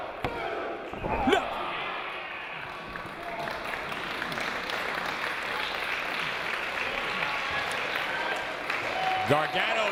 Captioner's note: applause